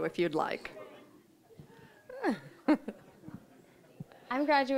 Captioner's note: audience laughing